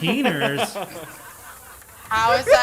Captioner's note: group laughs